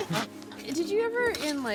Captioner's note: fart squat